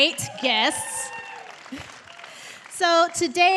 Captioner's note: cheers and applause